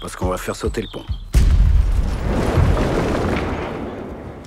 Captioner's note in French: violente détonation